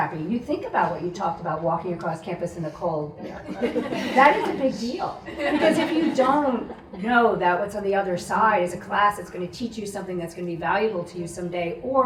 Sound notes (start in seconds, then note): 3.3 audience laughs